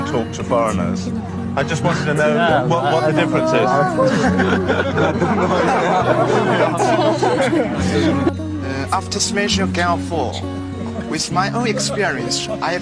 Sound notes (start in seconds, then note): 4.0 laughing